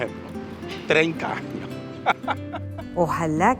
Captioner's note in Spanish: laugh